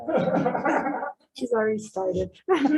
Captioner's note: laughing